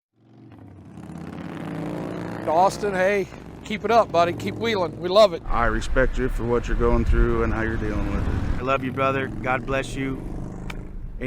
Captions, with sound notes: (engine revving) - Austin, hey, keep it up buddy. Keep wheeling. We love it. - I respect you for what you're going through, and how you're dealing with it. - I love you, brother. God bless you.